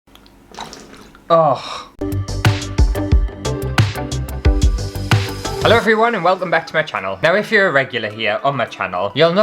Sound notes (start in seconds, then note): 0.4 water Splash; 2.0 intro Music